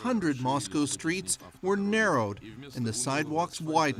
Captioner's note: speaking russian